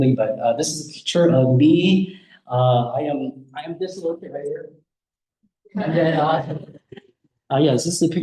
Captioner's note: audience laughs